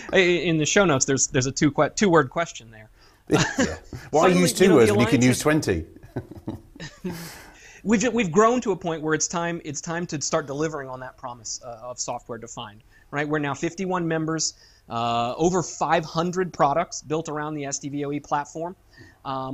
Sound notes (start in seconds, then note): 6.2 chuckle